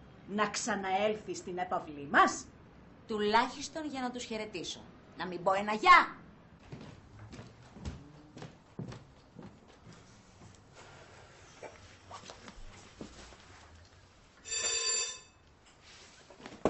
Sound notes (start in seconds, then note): 14.4 doorbell rings